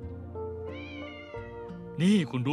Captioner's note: cat meowing